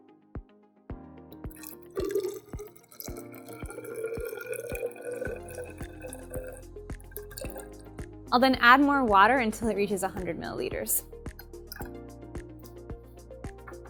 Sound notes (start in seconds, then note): 1.5 pouring beaker fluid into graduated cylinder